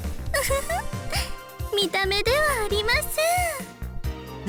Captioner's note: giggle